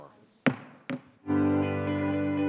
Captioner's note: gavel thudding; gentle music